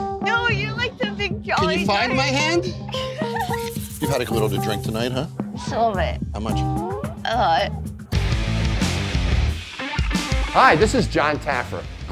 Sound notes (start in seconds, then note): 2.9 giggles; 8.3 upbeat music